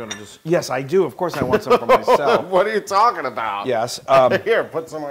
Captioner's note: laugh